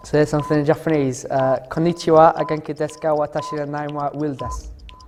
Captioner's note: says something in Japanese